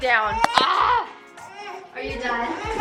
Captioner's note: exasperated groan